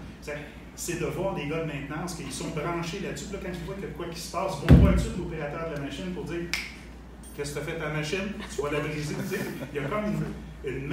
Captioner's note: laughs